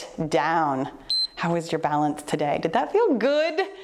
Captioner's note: timer beeps